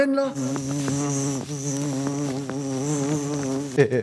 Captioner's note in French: bzzzzzz